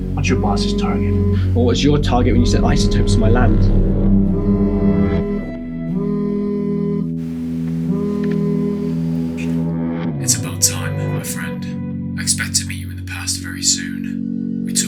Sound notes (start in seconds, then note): 4.2 phone buzzing